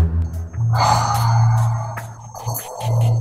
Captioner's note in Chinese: 叹气